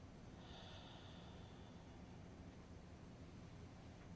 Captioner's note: sighing